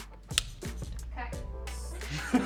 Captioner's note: Grayson laughs